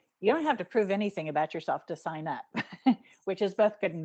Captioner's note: chuckling